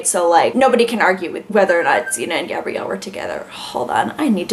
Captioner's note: alarm chirps in back ground